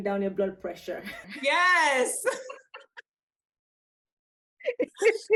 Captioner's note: both laugh